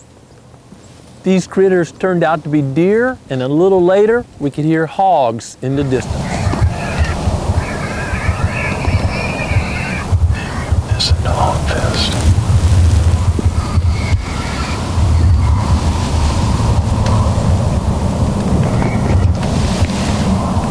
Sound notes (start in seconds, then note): 8.4 whispering